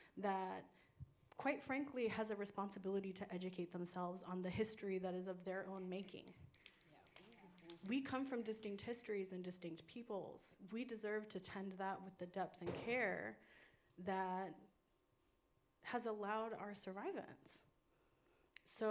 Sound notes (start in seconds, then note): 6.5 audience snapping fingers